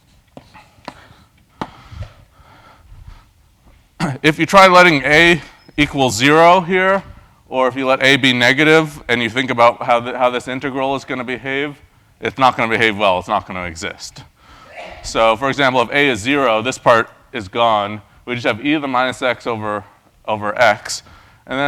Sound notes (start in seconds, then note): 4.0 cough